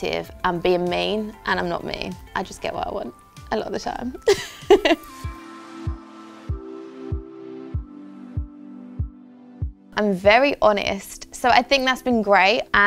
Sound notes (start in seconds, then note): 4.3 laughs; 5.3 upbeat music